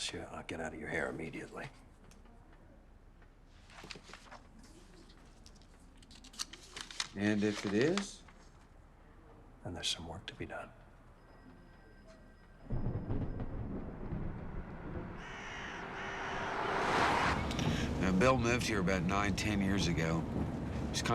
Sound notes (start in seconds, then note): 12.6 thunder rumbles; 15.2 bird squawks